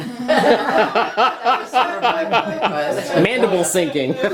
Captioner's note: laughter